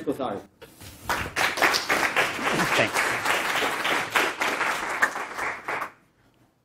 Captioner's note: applause